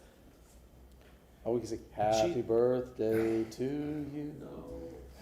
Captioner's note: humming jeopardy theme